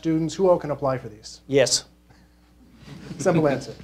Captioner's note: laughing